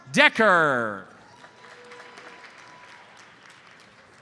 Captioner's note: audience applauds